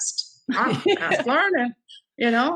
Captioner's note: laughing